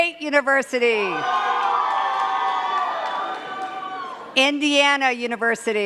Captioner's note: cheers and claps